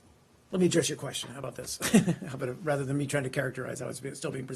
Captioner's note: laughter